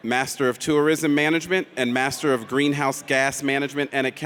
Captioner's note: none